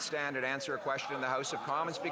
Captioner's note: some Applause